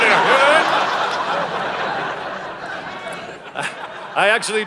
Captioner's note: audience laughing